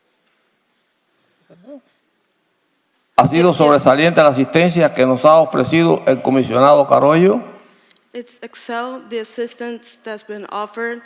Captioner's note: speaking foreign language